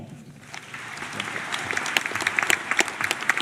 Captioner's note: applause